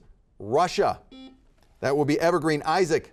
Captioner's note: buzzer beeping